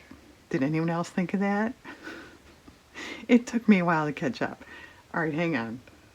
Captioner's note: laughs